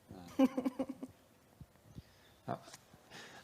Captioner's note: laughter